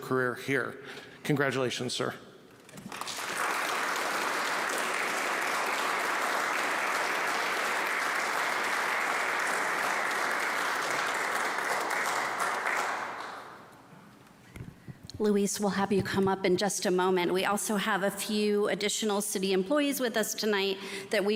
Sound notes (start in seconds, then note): 4.8 applause